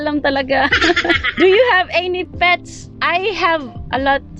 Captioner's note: laughs